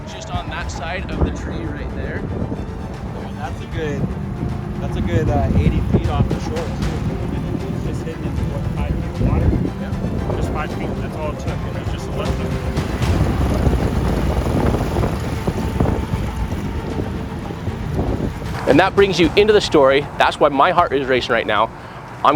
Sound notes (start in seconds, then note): 13.3 dramatic music; 13.3 wind whooshing